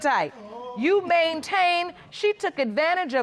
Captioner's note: audience exclaiming